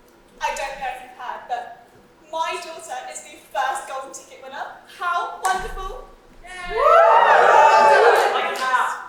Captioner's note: audience cheers